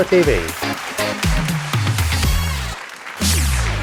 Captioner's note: applause